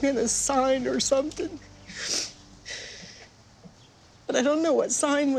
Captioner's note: sobs